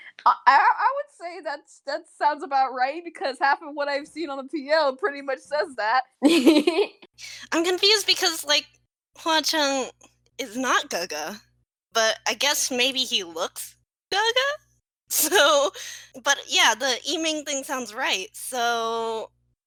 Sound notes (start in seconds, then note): 6.2 laugh